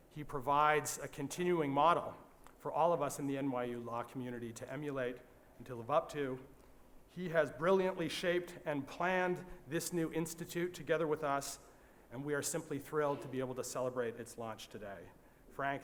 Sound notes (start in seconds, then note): none